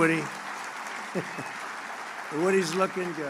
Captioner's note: laughs